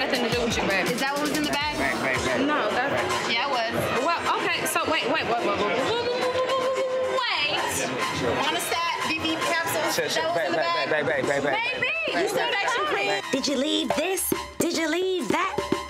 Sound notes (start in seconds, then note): 12.6 shouting over each other